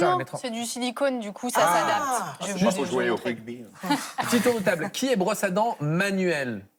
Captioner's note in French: rires